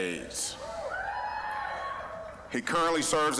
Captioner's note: scattered cheering